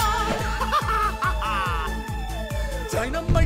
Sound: laughter

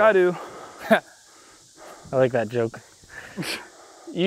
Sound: laughs

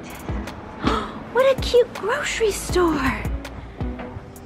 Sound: gasps

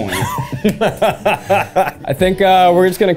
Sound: Eugene laughs

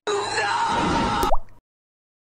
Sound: plop

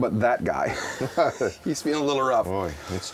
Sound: laughing

